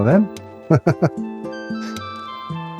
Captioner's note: chuckles